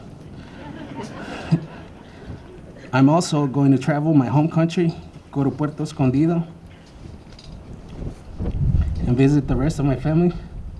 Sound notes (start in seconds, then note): 0.4 laughter